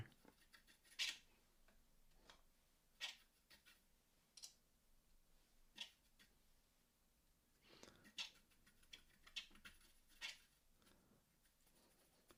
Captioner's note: silence